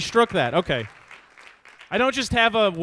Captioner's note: audience applauds